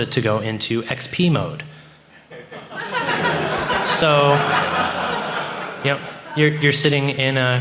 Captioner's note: laughter